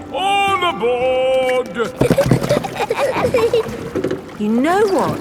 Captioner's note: giggling